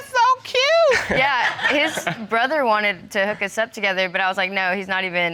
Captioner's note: chuckles